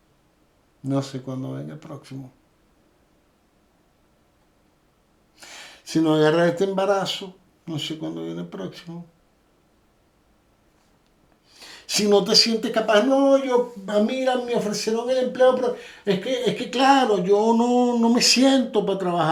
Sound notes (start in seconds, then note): 12.7 hesitantly